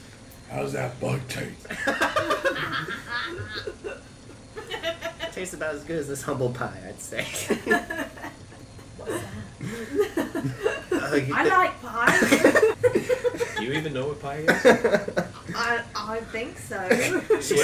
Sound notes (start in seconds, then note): 1.6 laughs; 6.2 the rest laugh